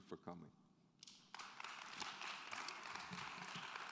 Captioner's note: clapping